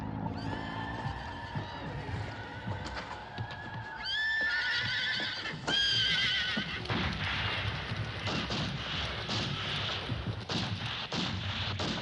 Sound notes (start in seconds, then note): 0.1 horses neighing; 6.8 guns firing